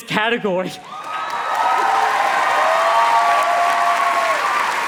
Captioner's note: audience cheers